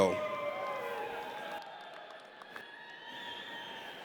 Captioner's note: audience cheers